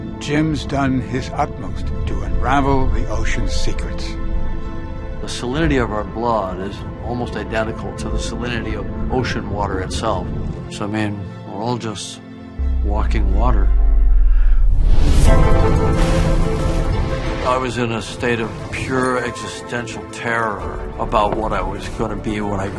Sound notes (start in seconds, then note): 14.1 inhales sharply; 14.9 intriguing music